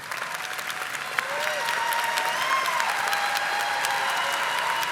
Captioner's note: audience applauding